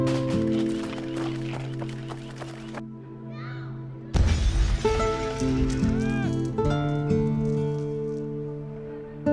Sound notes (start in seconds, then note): 0.0 feet thumping; 4.1 bomb exploding